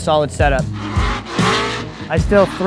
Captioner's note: car engines roar